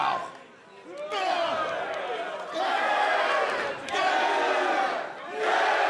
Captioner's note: crowd exclaiming